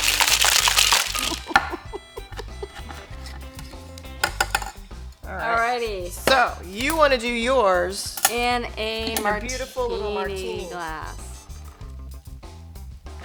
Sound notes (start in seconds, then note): 1.1 laughing